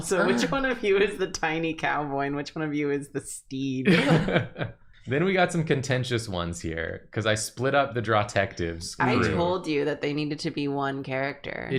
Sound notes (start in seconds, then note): 3.8 laughter